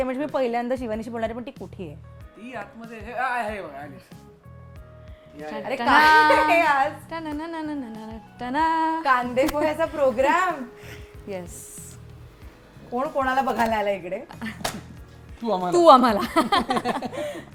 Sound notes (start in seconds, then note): 7.0 humming; 16.2 chuckles